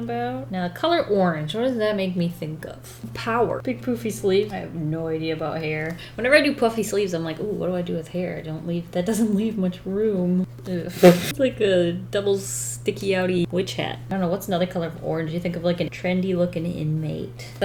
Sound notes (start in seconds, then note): 11.0 laughs